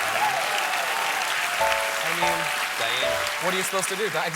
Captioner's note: applause